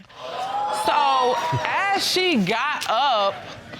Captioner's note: exclaiming